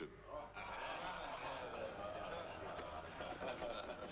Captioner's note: crowd murmuring